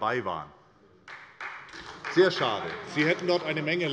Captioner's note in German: Beifall bei Abgeordneten der SPD